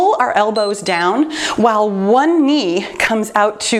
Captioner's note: timer beeps